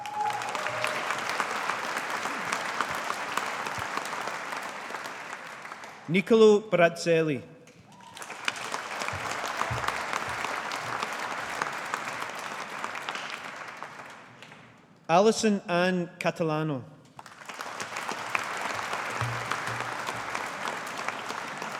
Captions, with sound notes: (AUDIENCE APPLAUDING) Niccolo Brazzelli. (AUDIENCE APPLAUDING) Allison Anne Catalano. (AUDIENCE APPLAUDING)